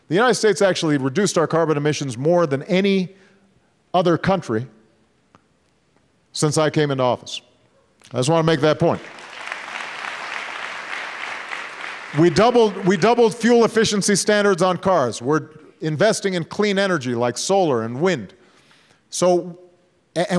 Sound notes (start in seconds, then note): 10.9 applause